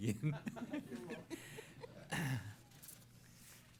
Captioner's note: laughter